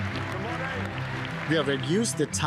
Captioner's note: applause